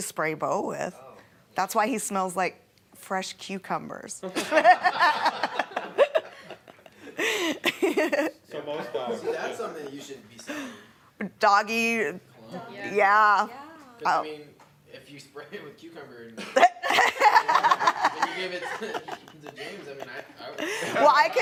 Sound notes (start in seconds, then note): 4.3 laughing